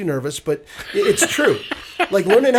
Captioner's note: laughing